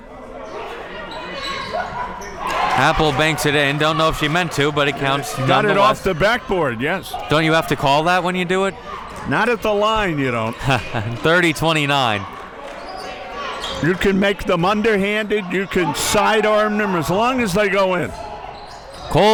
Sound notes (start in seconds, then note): 2.4 audience cheering; 10.4 laughs